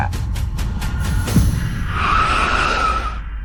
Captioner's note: screaming; thunder